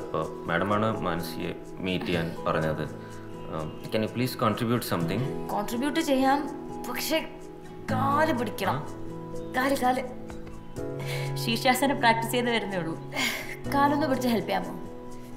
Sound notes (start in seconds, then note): none